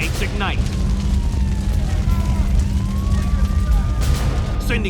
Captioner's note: sirens wailing